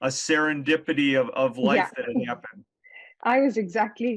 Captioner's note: chuckles